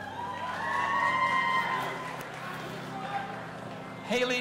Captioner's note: audience applauding and cheering